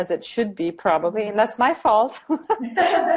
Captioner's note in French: rires